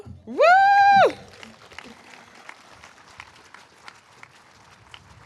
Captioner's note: all applauding